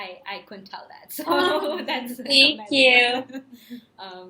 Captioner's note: laughs